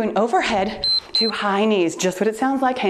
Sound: timer beeps

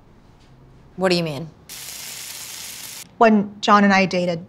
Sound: grease sizzling

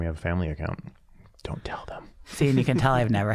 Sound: whispering

